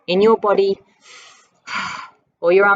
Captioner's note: breath